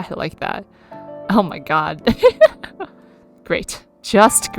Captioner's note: laughs